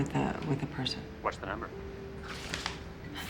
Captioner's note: rustling